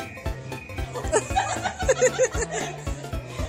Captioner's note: crowd laughs